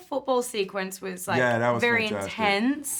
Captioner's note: laughs